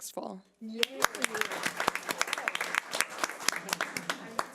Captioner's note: audience applause